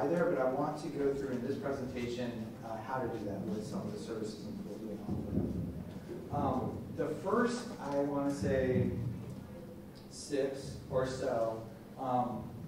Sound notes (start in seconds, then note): 4.9 thumping drowns out speaker